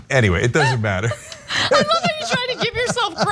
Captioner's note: laugh